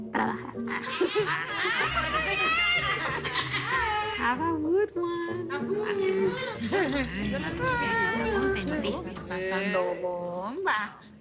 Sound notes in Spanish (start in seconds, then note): 0.7 Risas